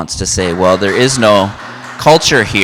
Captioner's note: audience applauds